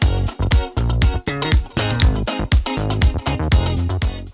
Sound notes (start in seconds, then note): 1.8 mouse clicks